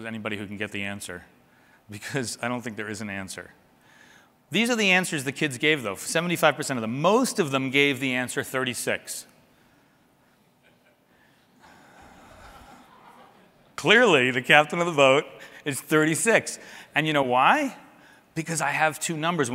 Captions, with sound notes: anybody who can get the answer. Because I don't think there is an answer. These are the answers the kids gave, though. 75 percent, most of them, gave the answer 36. [LAUGHTER] Clearly the captain of the boat is 36. And you know why? Because I have two numbers.